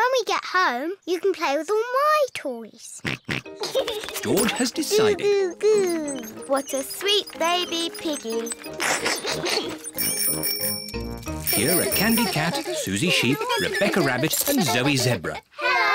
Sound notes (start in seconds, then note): 3.3 snorts and giggles; 9.3 giggles; 10.3 bicycle bells tinkle